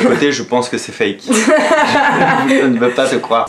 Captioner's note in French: rire